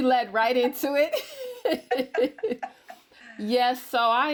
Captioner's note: laugh